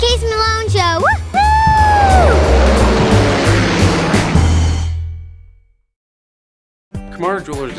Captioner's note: plane engine roars; child cheers